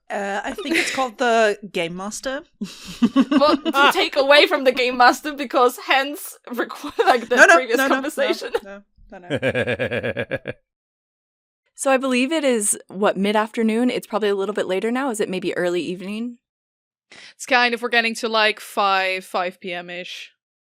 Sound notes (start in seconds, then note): 2.7 laughter; 2.8 laughs; 9.2 laughs; 10.7 Annie laughs